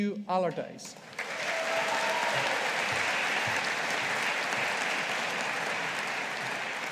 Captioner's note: audience applauding